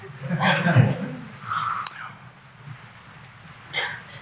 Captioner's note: audience chuckling